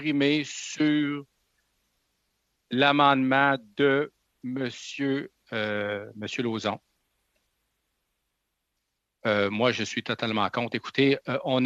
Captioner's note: speaking French